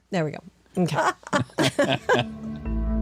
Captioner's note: laughter